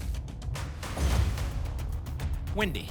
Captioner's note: thump; whoosh